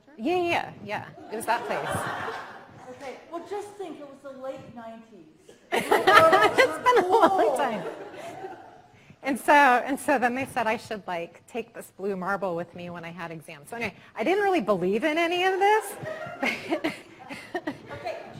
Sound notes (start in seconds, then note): 1.3 audience laughing; 5.7 all laughing; 15.5 laughing